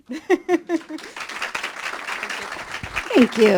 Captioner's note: applause